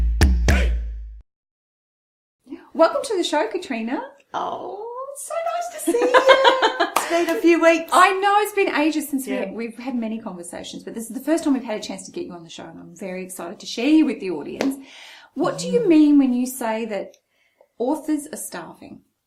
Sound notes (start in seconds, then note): 5.8 laughs